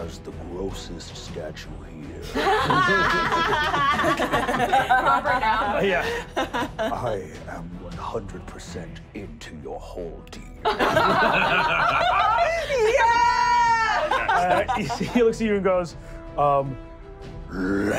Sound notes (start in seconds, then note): 2.3 laughing; 10.6 laughing